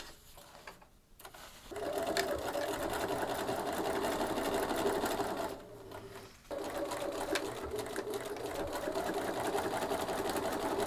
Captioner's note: more sewing